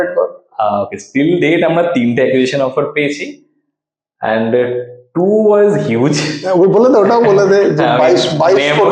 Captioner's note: laughs